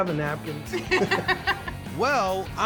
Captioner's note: laughter